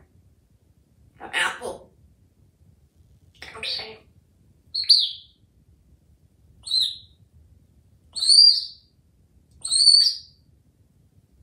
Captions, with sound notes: Apple. Come see... [Bird chirps]